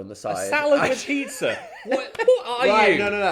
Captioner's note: laughing